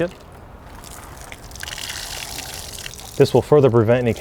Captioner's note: water splashes